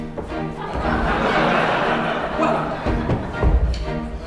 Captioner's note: laughter